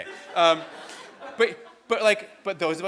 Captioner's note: audience laughs